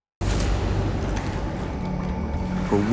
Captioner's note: ominous music; water splashes